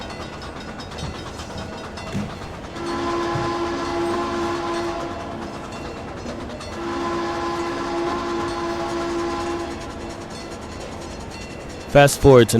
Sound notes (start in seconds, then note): 0.0 FRISCO 1522 Whistle; 3.5 chuffing, FRISCO 1522 Whistle